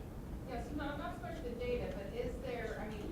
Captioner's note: voiceover